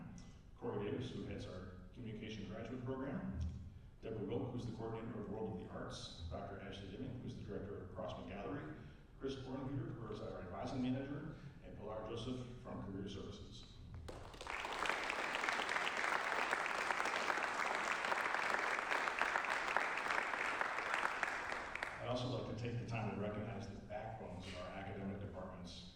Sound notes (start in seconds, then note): 14.0 applause